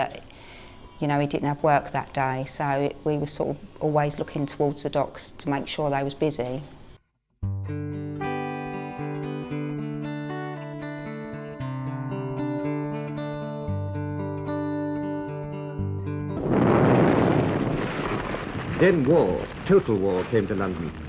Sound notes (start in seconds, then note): 7.4 mellow instrumental music; 16.4 explosion